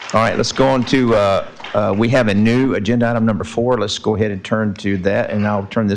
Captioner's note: applause